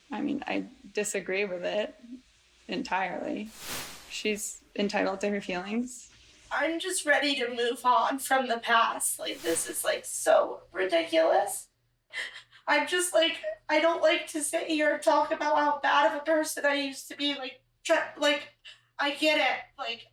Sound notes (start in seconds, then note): 6.8 voice breaking